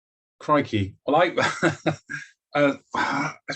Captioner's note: laughs